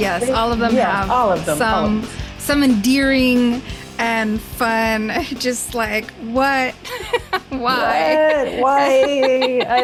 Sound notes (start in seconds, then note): 6.8 laughs